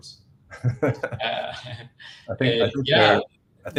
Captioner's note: laughter